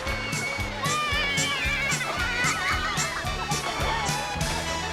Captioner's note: yelling, laughing